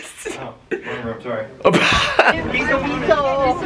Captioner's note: lols